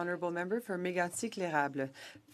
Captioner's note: speaking French